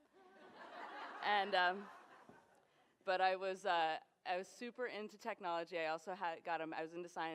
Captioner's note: laughter